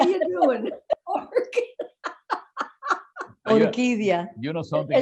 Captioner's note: laughing